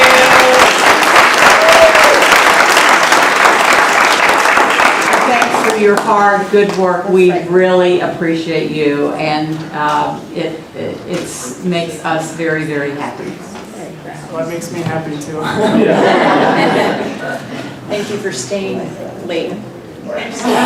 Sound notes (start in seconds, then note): 2.8 applause